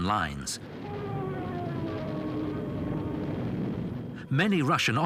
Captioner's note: plane engines roaring